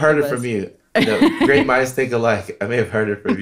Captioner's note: laughing